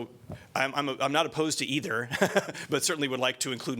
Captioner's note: laughter